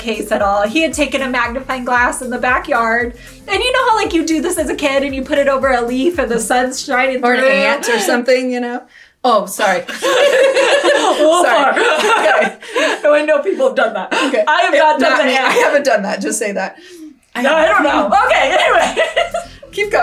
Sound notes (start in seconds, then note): 9.6 laughs; 9.7 both laughing; 13.9 laughs; 17.4 giggling